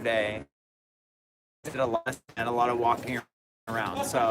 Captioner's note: static broken speech